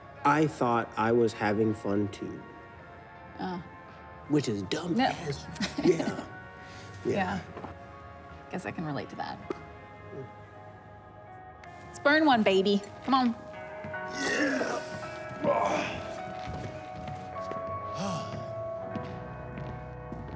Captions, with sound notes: I thought I was having fun, too. Oh. Which is dumb as- Yep. Yeah. Yeah. Yeah. I guess I can relate to that. Let's burn one, baby. Come on. Yeah. (Rufus grunts) (sighs)